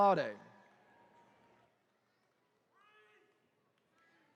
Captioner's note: attendees cheering